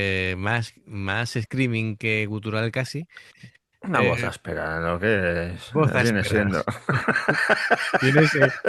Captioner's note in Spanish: risas